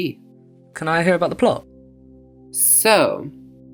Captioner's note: voiceover